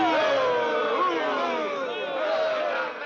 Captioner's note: booing